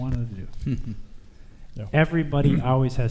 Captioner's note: chuckles